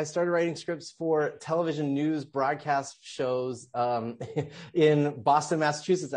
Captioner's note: laughs